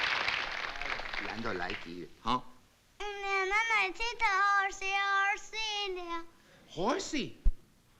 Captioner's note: non-english speech